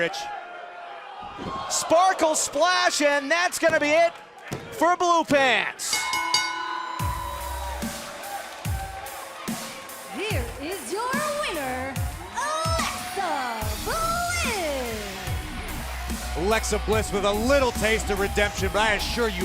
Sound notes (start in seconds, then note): 5.9 bell